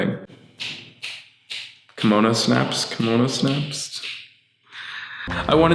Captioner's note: snaps his fingers